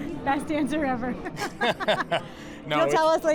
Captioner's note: both laughing; laughs